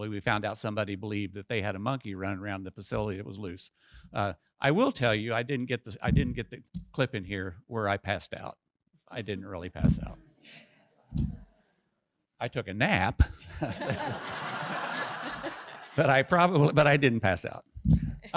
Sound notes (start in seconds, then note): 13.4 audience laughs